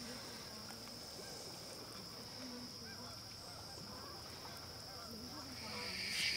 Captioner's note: geese honking in distance; nighttime insect noises